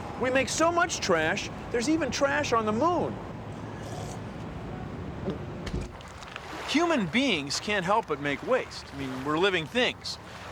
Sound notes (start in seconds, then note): 3.6 slurps, gulps